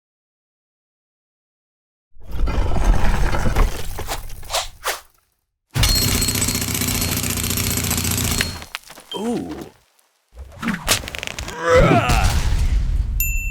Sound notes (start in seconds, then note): 2.2 stone scraping; 5.8 jackhammer drilling; 11.6 man yelling; 11.6 stone slamming; 13.2 bell dinging